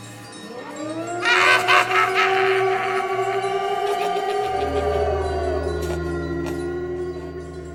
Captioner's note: Siren and Mr. Punch laughing